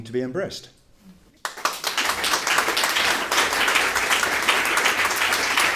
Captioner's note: applause